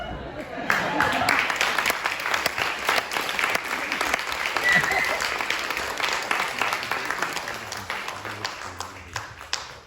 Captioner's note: laughter, applause